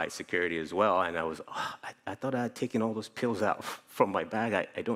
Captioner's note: sigh